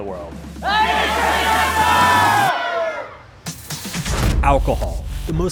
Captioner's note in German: Menge schreit undeutlich